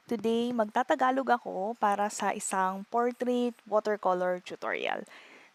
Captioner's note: filipino